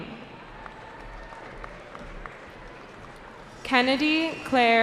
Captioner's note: cheering